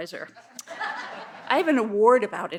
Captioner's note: audience laughs